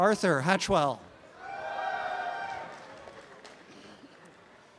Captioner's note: applause and cheering